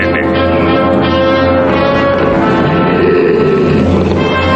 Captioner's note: growling